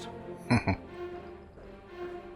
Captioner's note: chuckling